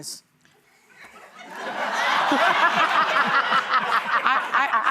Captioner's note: laughter